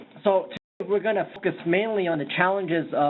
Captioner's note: voiceover